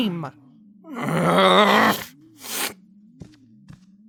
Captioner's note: Max growls